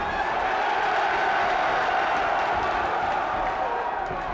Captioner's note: crowd cheers